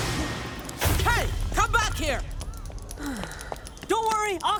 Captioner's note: sighing